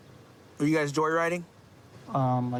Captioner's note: none